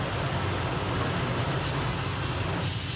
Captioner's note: machine whirring